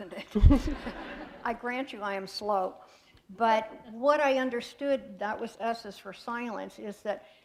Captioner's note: laughter